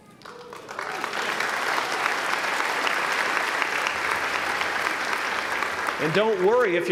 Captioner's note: applause